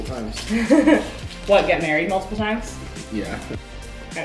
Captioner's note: laughs